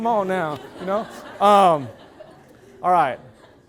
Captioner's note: loud laughter